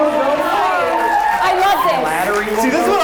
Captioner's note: audience cheers